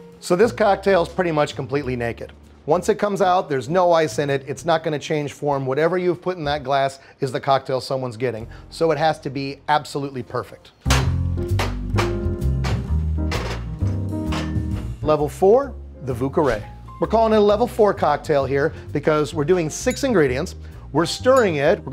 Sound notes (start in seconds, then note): 11.0 bottles clacking; 11.0 cheerful music